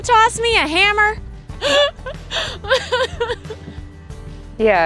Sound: laughing

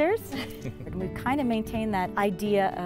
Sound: laughs

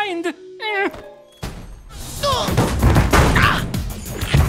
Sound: grunting

